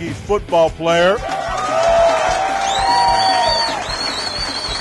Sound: cheering

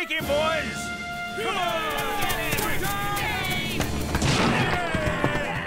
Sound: yelling

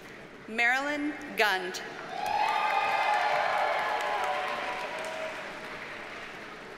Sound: audience cheers and applauds

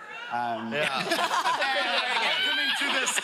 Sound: laughing

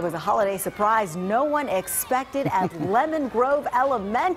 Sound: cheers

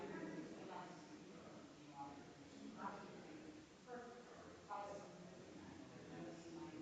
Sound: people chattering distantly continues

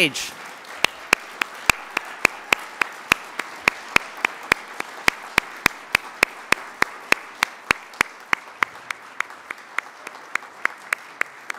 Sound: applause

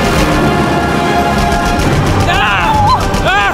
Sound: gunshots

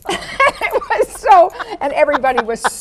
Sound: Lily laughs

